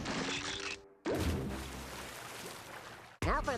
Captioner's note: water splashing